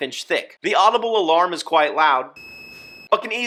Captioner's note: alarm beeps